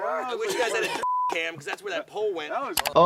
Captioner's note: beep